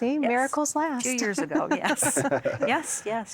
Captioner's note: laughter